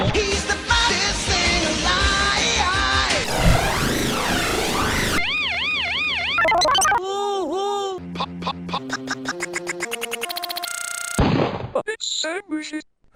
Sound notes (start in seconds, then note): 3.2 heavily distorted sounds; 6.3 Mama Heffalump squeaks and glitches out; 8.0 stuttering and speeding up to shit; 11.2 gunshot sfx; 11.5 male text-to-speech voice